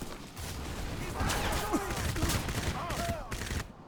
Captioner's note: gunfire